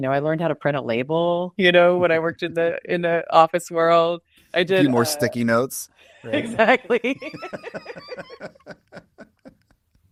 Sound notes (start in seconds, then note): 6.3 both laugh